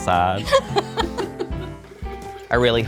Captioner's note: laughs